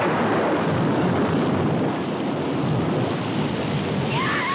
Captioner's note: thunder